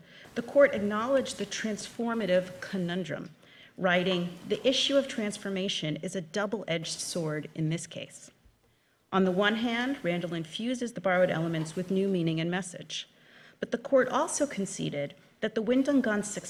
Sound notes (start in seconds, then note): none